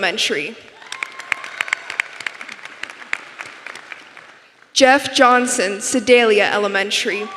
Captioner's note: applause